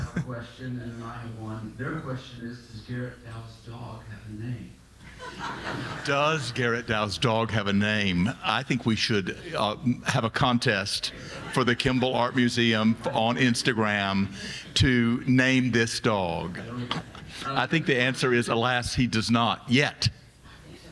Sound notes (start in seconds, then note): 5.0 audience laughing